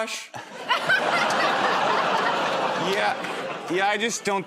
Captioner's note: laughter